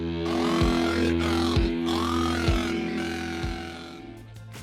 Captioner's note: robotic Voice